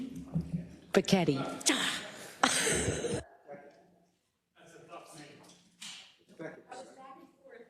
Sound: laugh

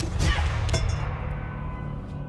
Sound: clank

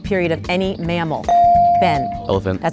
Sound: dinging

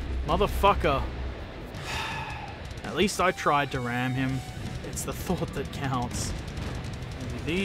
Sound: sigh

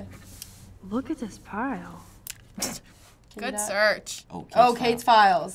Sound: snorts

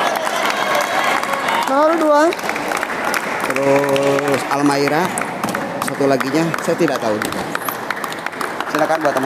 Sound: applause

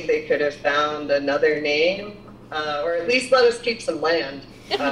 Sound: laughter

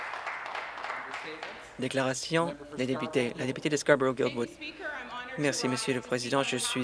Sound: some Applause

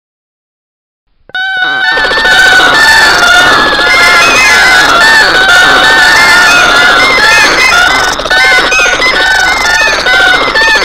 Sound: sound of bird

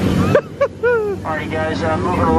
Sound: laughs

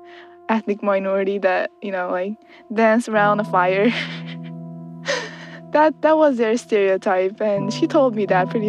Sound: laughs

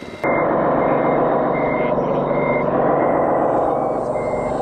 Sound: engine rumbling

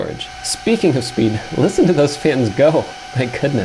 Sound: fans screeeeeching

